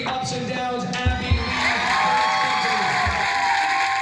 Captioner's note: cheers and applause